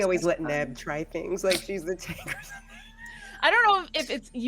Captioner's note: laughs